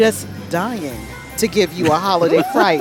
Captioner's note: laughing